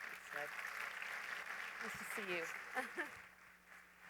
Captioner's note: applause